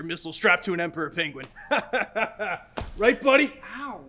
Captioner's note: laughs